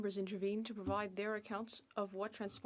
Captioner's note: speaking French